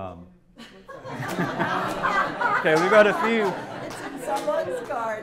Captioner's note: laughter